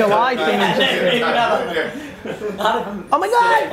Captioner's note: group chatter